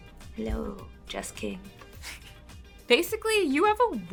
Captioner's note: laughs